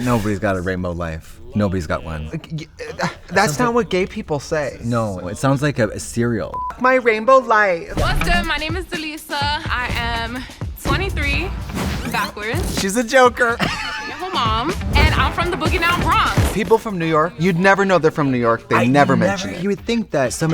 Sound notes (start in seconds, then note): 6.5 beep; 13.5 Trixie laughs